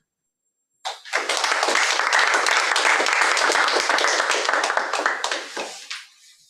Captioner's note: applause